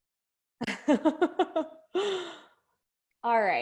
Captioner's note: laughing